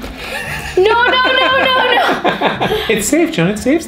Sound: laughing

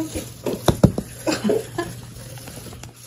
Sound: giggling in the background

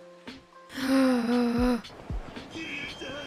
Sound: gasps

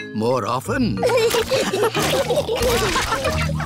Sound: all laughing

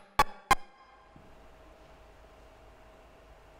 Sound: electronic sounds stop

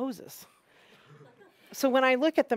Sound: laughing

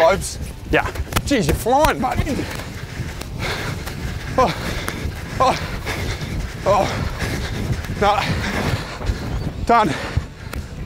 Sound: struggling with heavy breathing

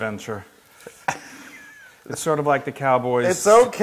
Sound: laugh

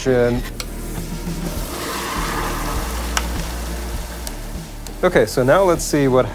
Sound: pouring liquid nitrogen

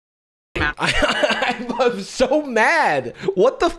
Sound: laughs

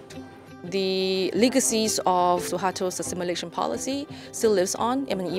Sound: foreign language

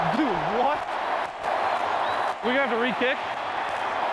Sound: crowd cheering

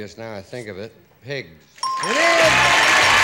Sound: ding; applause

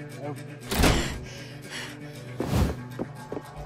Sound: pants

